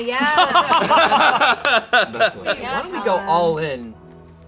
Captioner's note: group laughing